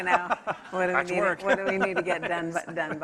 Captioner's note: laughs